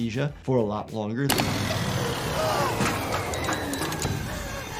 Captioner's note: machine whirs